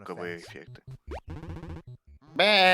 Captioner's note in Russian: Васьмібітнае бляянне; Васьмібітнае бляянне паўтараецца